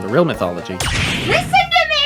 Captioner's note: second door slams open